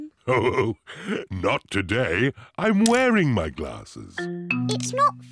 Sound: chuckles

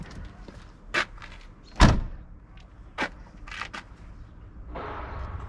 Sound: vehicle door slams

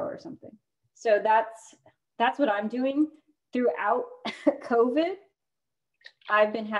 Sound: laughter

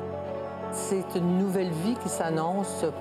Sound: speaking French

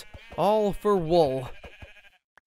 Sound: sheep bleat

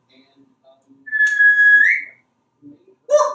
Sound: whistling

